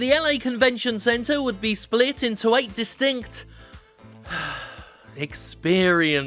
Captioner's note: sighs